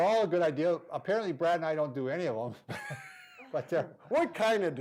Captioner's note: laughing